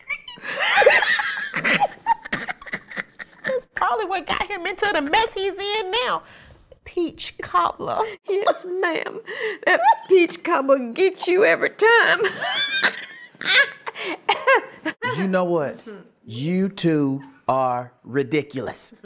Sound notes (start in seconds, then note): 0.0 laughing; 12.1 laughing